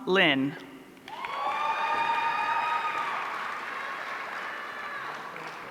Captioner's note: audience cheering